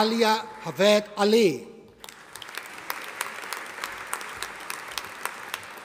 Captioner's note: audience applauding